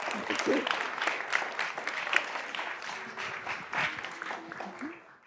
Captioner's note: applause